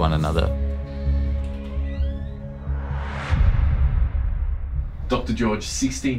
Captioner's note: dramatic music; door creaking